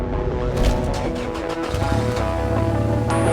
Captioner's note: ignition chugs; engine growls